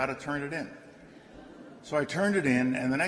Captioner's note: laughter